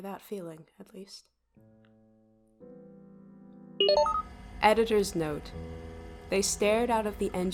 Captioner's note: SFX: sound to indicate pause